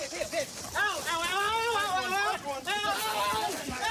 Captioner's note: screaming